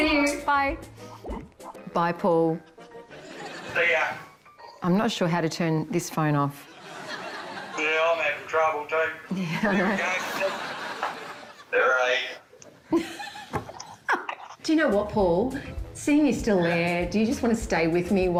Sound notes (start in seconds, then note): 6.7 laughter; 10.8 laughs